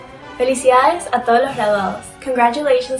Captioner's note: speaking in foreign language